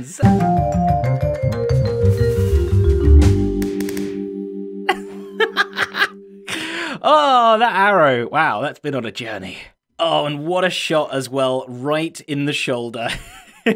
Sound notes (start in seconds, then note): 5.3 laughs